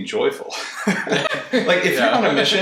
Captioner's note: laughter